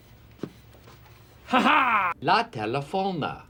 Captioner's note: laughs in gringo